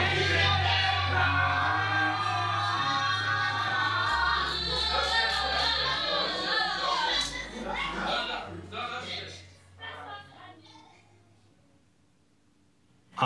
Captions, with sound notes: THANK YOU J.J ABRAMS!!! (people yelling) (woman laughing) - No, no. No, that's good.